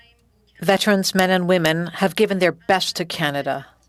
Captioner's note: speaking French